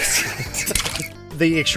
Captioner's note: laughter; squishing